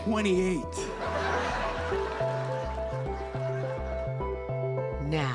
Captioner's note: audience laughing